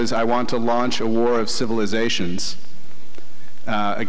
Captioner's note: none